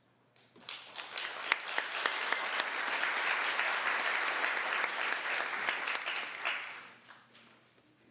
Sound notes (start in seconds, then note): 0.6 applause